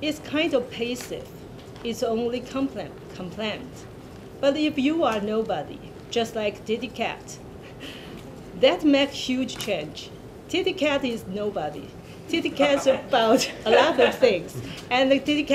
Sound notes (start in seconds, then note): 12.6 laughter